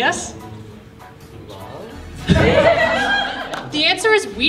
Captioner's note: laughter